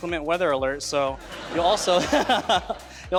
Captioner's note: everyone laughing